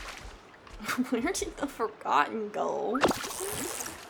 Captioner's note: laughing